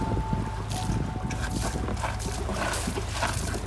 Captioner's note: water splashing